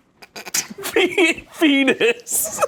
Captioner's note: laughs